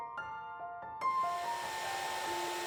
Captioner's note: whirring of heat-gun